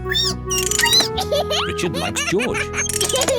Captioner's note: squeaks